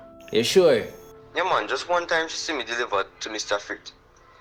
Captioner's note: phone voice